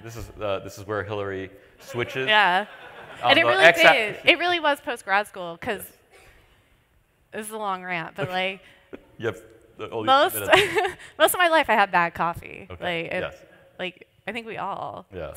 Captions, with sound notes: This is where Hilary switches. [LAUGHTER] Yeah. And it really was post-grad school, because-- this is a long rant. You have only two minutes. Most of my life, I had bad coffee. Like, I think we all--